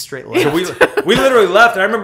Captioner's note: laughter